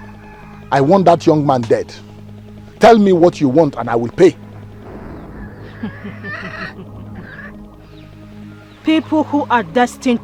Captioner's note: laughter